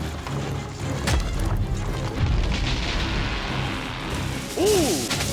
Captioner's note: wheel breaking